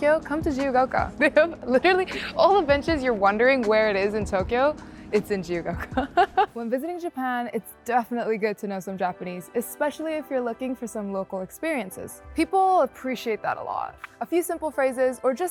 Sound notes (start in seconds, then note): 5.7 laughing